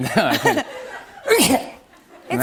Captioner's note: laughter; sneezes